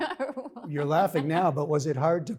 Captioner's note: laughter